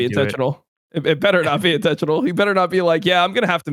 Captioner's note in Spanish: risas